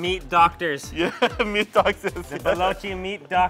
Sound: laughs

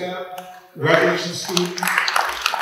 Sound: clapping

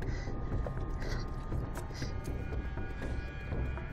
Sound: Vee breathing heavily; dramatic music

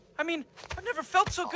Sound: none

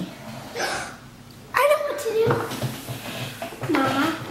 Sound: gasps

